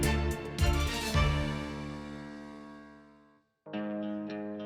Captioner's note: echoes